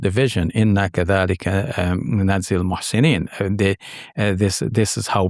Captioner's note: speaking in foreign language